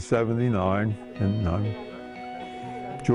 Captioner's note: laughs